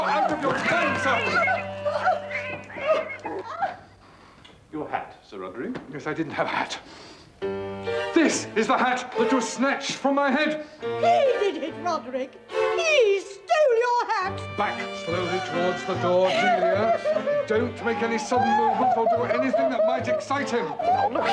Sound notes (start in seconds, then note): 2.4 miaowing